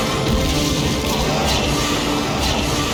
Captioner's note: screech!; chunck!; screech!